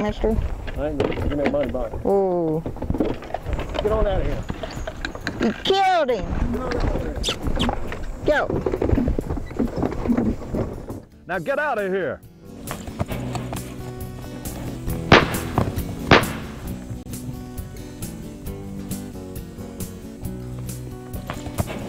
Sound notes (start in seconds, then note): 15.0 gun bangs; 18.3 rolling guitar music